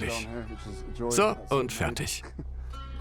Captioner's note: laughs; slow instrumental music